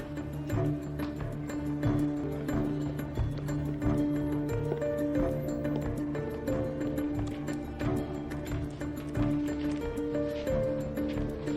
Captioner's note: birds chirpining